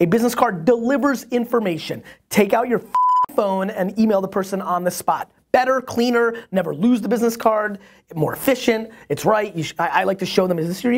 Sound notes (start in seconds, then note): 2.9 beep